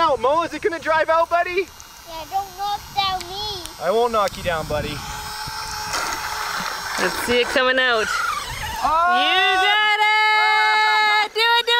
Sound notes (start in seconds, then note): 5.0 water lapping; 5.3 motor buzzing